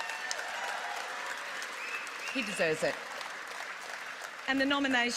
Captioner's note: applause